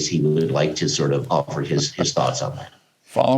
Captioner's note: laughter